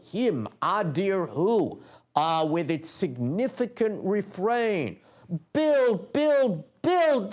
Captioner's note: non-english speech